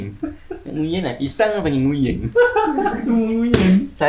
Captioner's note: laugh